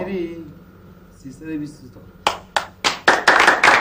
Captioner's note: speaking foreign language; people applauding